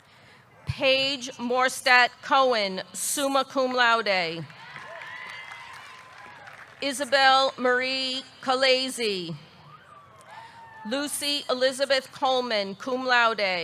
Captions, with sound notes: Paige Morstatt Cohen, summa cum laude. (audience cheering) (audience clapping) Isabelle Marie Colaiezzi. Lucie Elizabeth Coleman, cum laude.